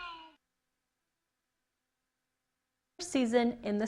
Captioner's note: silence